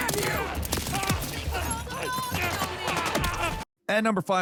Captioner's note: guns firing